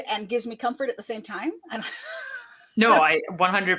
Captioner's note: laughs